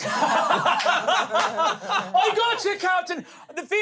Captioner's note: everyone laughs